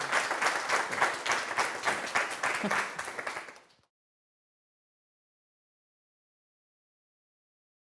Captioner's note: applause